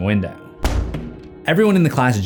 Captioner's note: thump